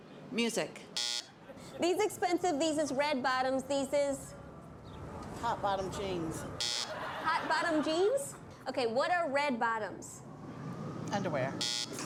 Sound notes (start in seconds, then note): 0.9 buzzer; 6.6 buzzer; 11.6 buzzer